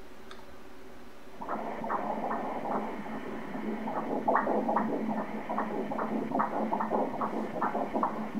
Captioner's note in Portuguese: batimentos cardíacos